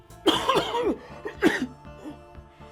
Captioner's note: coughing